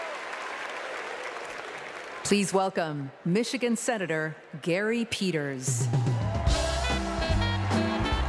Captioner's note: applause